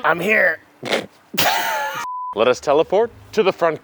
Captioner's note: characters sniggering; background cut cue ringing